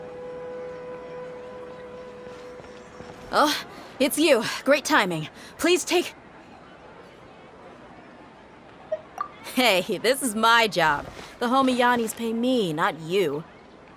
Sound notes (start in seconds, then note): none